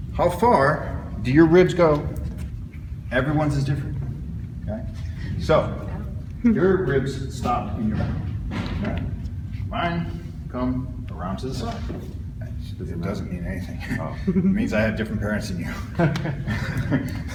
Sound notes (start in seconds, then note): 13.8 chuckles